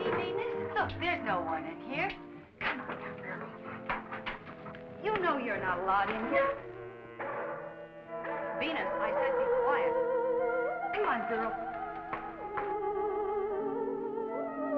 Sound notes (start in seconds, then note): 6.1 Venus barking